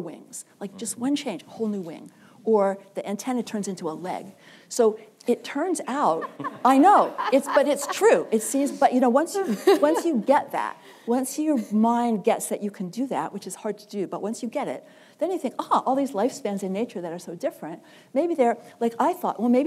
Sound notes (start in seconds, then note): 3.2 laughter